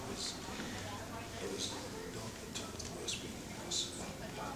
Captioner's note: whispering